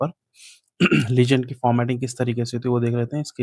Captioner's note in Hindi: गला साफ़ करने की आवाज़